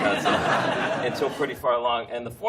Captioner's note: laughter